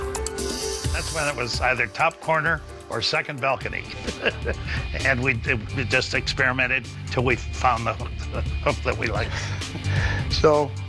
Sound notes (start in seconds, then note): 3.9 laughs